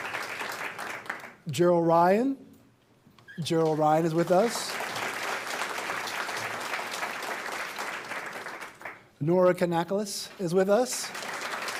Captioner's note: applause